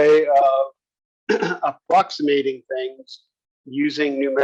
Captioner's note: cough